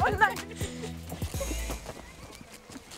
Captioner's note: giggle